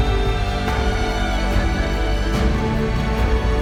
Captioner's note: cheering; slow dramatic music